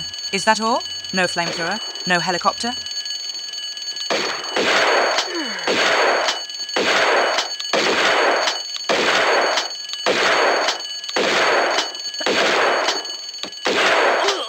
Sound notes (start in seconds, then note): 4.7 bam bam bam